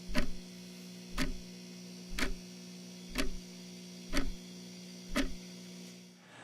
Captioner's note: clock ticking continues